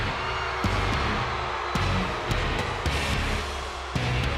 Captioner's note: audience jeering